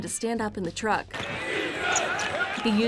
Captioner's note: chanting